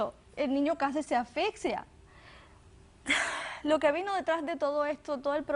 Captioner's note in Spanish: Solloza